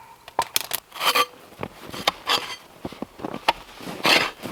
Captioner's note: wood thumping; scraper scraping